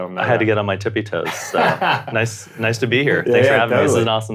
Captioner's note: laughs